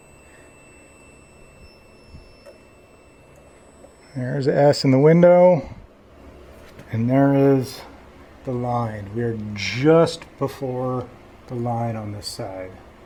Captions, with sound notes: [beeping resumes] There's S in the window. [beeping stops] And there is the line. We are just before the line on this side.